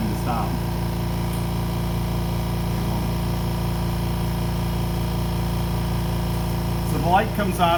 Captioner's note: compressor noise